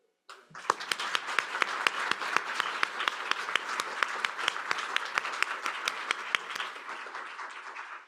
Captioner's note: applause